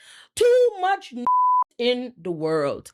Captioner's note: beep